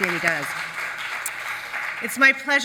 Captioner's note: audience applauds